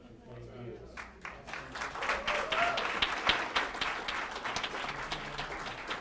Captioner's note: applause